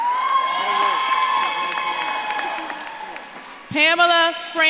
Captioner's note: audience claps and cheers